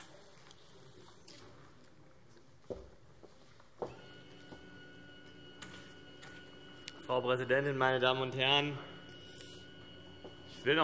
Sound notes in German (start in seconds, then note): none